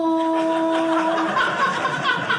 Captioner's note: audience laughing